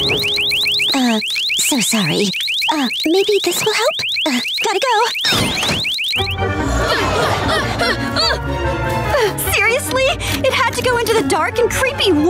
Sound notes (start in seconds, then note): 5.0 alarm sounding; 6.4 grunting